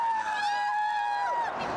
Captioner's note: people cheering